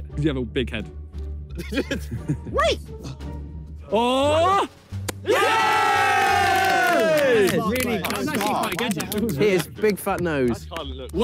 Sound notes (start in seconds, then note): 1.5 players laugh; 5.1 players cheer